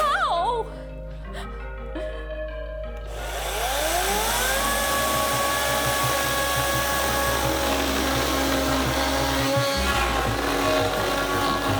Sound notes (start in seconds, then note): 1.9 chuckles; 3.0 chainsaw whirring